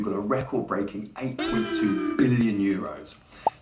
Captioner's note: comic crowd booing